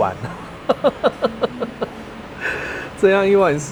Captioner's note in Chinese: 笑聲